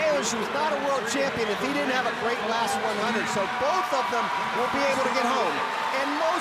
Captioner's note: audience cheering